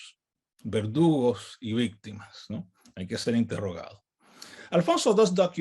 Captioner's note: speaks in native language